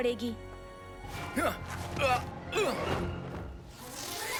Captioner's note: grunting